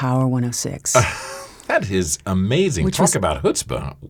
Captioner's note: laughs